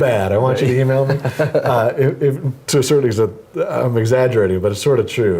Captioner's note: laugh